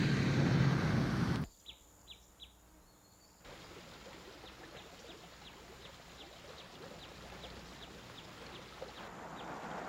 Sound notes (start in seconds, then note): 1.7 birds chirping; 3.5 water trickling